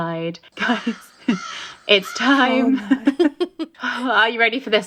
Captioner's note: crow cawing